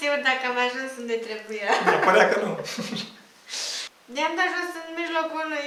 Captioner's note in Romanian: haha